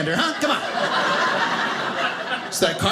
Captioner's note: audience laughing